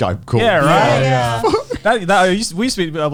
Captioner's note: mimicking sobs